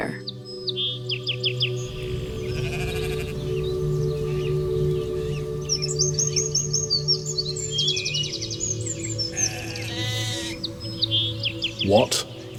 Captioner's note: soundbite of pastoral ambience